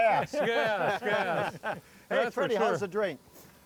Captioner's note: group laughing